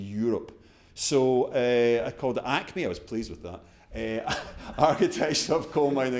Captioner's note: chuckles